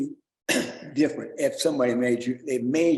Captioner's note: clears throat